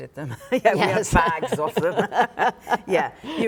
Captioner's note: laughing